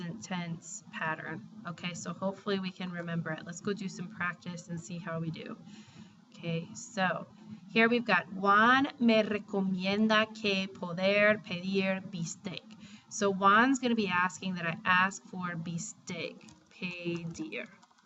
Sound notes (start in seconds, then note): 7.7 speaking spanish; 16.7 spanish